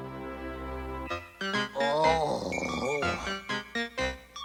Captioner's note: groans